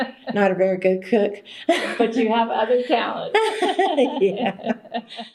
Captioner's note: laughter